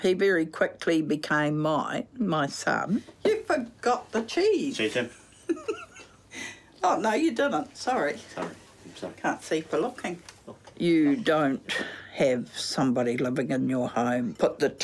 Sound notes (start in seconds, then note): 5.1 giggles